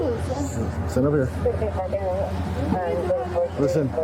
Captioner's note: radio chatter